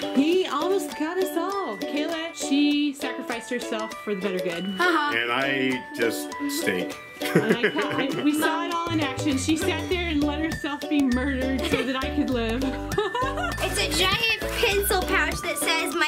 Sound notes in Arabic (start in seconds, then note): 7.2 يضحك; 12.2 يضحك